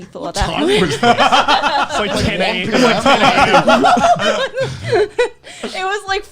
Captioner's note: laughing